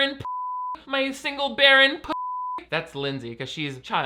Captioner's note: beep; beep